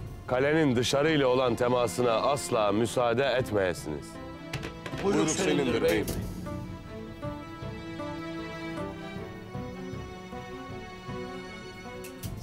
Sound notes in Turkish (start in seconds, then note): 4.4 El vurma sesleri; 5.1 Hep bir ağızdan